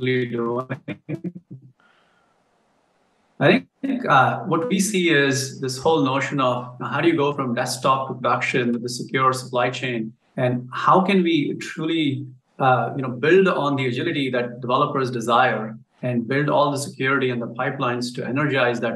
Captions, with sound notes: (faintly speaking). I think what we see is this whole notion of how do you go from desktop to production to the secure supply chain and how can we truly build on the agility that developers desire and build all the security and the pipelines to energize